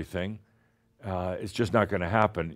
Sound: none

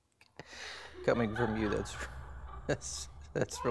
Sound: chuckles

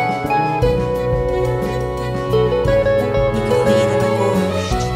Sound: none

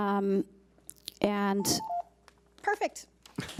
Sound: timer beeps

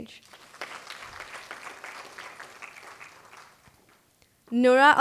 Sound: applause

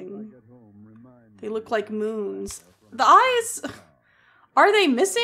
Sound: small Laugh

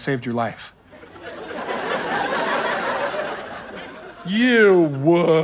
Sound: audience laughter

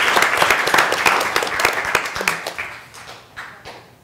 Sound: applause

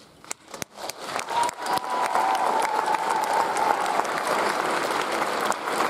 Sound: audience applauds; audience cheers

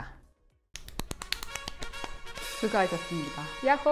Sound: clap clap clap clap

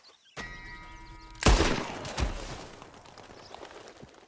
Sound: gunshot

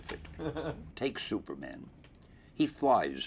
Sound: interviewer laughs

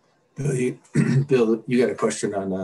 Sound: clears throat

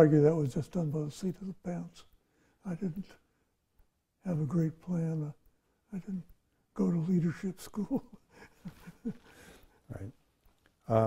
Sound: laughs

